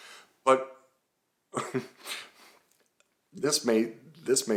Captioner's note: chuckles